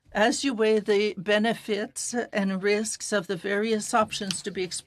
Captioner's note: speaking French